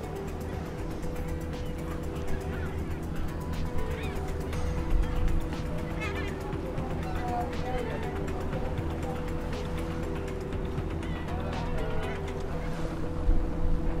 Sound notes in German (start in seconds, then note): 3.5 Möwengeschrei und Musik